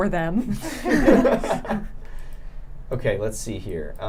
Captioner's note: laughing